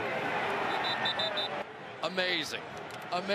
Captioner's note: whistle